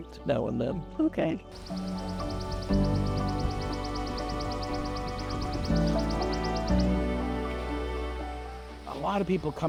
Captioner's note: birds calling